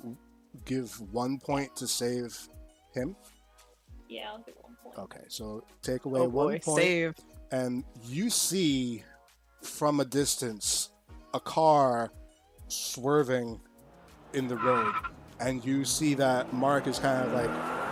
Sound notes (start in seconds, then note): 13.9 tire Squeal Sounds